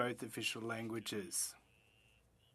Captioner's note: speaking French